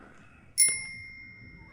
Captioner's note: ring